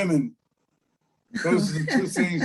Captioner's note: laughs